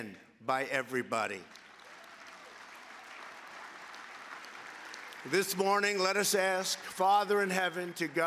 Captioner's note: applause